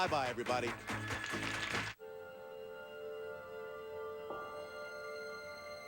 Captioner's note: audience applauding